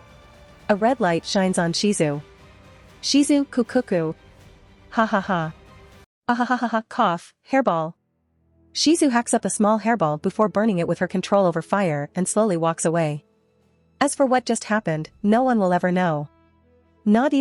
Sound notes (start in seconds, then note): 5.0 cough!